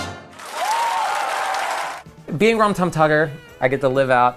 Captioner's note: applauding